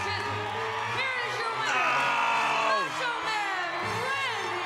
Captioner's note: groans